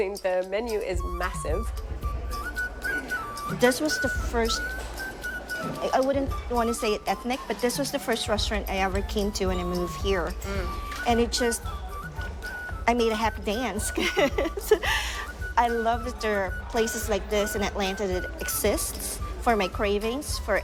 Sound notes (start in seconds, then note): 13.4 laughs